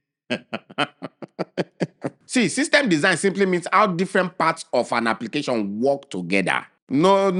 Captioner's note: laughs